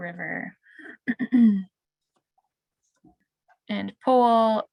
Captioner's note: clears throat